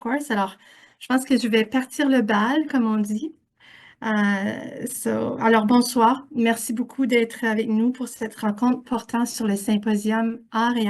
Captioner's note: French